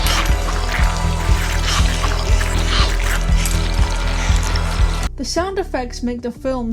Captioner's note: squishing noises